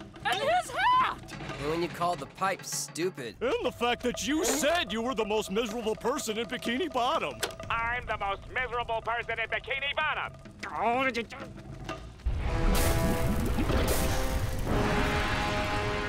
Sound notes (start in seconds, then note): 12.0 grumbles; 12.2 lava hissing